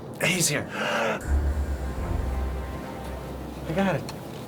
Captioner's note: gasps